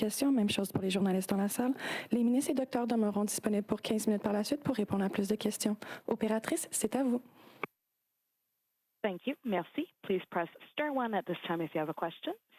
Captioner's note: speaking French